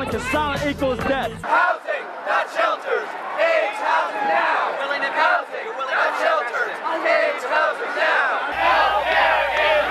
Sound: chanting

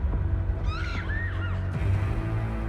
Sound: girl screaming

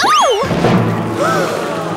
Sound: gasps

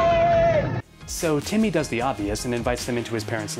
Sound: unintelligible screaming

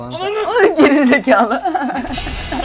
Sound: laughs

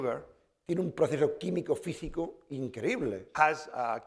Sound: speaking spanish

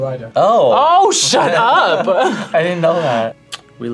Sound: laughs

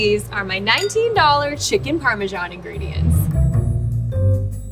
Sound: graphic tings; upbeat music

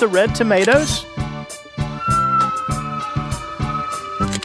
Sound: SFX: Train whistle; SFX: Camera Shutter

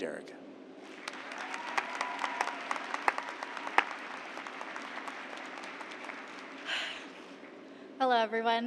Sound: applause

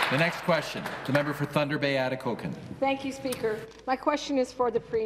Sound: applause

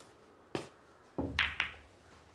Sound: balls clack

